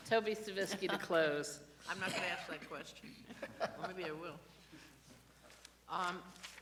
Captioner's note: laughter